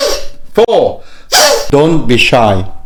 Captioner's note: deep breaths